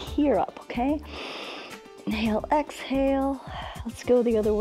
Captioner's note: inhales